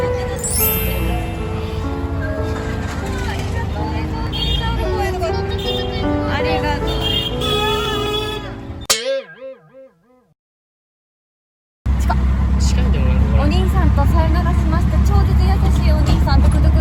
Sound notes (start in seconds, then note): 6.8 horn honking